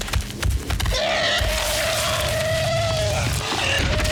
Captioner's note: elephant screaming